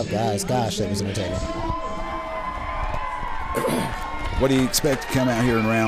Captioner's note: crowd cheers